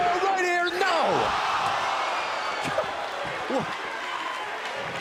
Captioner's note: crowd cheering